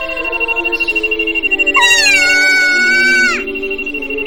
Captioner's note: screams